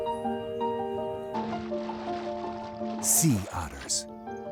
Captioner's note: mellow music; ocean sloshing